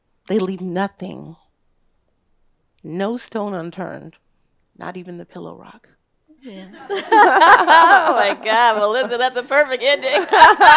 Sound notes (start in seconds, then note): 6.4 all laughing